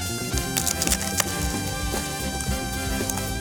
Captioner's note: crunching; upbeat music